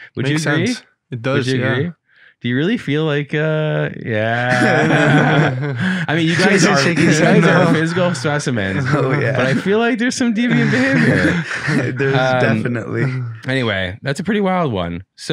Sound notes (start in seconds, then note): 4.3 group laughing; 10.4 laughing